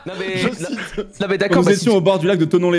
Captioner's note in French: rires